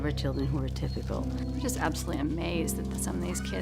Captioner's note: female voice